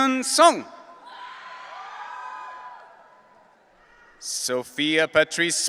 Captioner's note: audience cheering